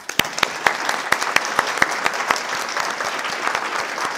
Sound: audience applauding

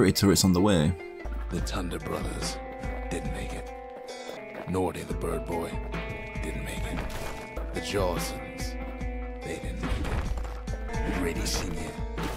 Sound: in-game audio

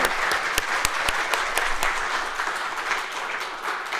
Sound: applause

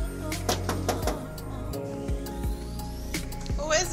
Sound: knocking on door

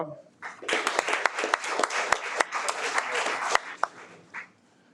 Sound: audience applauds

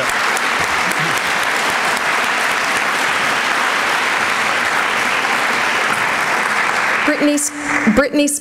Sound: applause

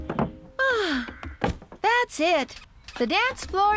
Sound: sighs

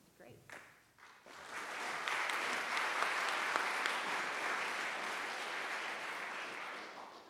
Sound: clapping

